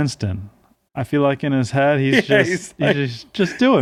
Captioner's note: laughing